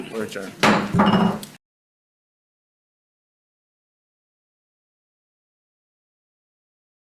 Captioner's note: gavel bangs